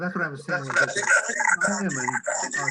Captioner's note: microphone distortion